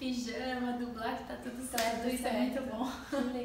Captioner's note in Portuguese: risos